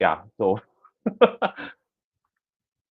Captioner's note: laughs